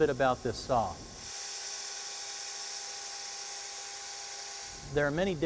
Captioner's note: saw blade spinning